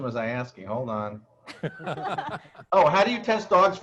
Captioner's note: panelists laughing